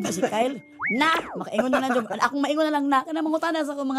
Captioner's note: chuckles